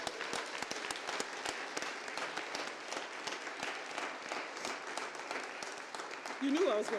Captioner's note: applause